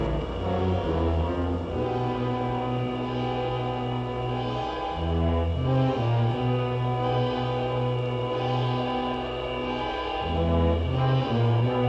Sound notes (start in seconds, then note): none